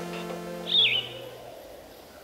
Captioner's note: birds chirping